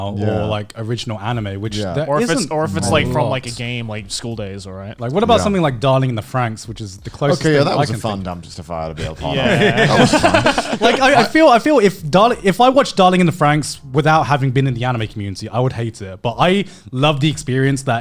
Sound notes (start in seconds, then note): 12.1 laughing